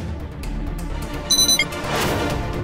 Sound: beeping

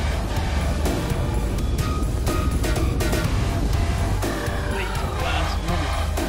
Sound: boat motor roaring

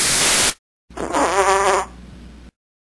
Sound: farting

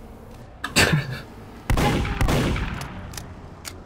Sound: laughing

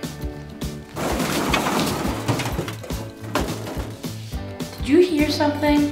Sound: items falling and clanking around

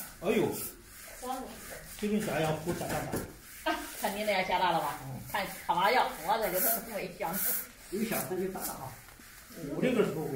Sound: locals chitchat

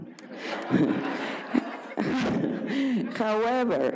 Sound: audience laughs; laughs

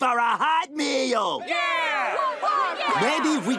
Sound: shouts

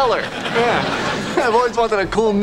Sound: audience laughing

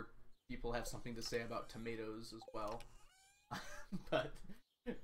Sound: laughs

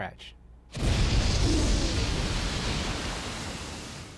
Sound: explosion

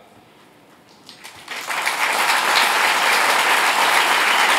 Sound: audience applauds loudly

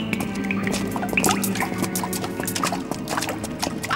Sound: dripping

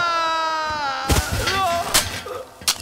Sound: thud falling

